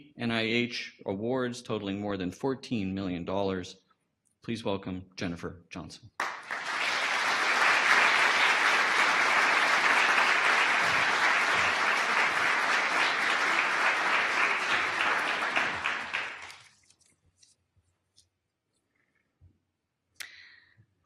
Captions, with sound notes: NIH awards totaling more than $14 million dollars. Please welcome Jennifer Johnson. (audience applause)